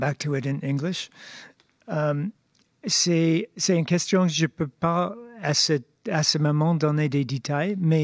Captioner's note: speaking French